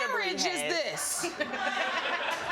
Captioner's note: audience laughing